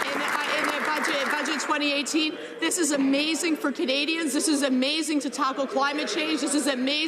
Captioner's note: some Applause